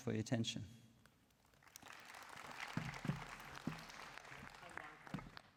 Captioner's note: applause